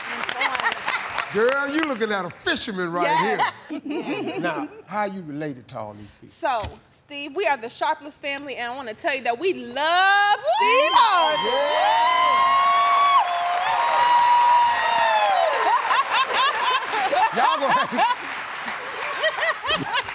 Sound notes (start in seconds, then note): 3.2 laughter; 11.8 cheering and applause; 15.6 laughs